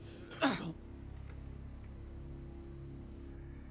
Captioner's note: Bobby grunting